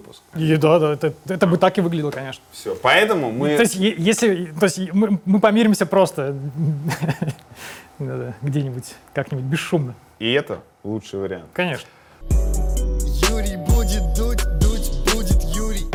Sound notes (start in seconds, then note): 6.4 chuckles; 12.2 title theme